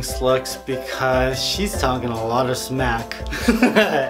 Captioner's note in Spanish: Risas